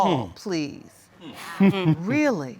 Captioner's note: chuckles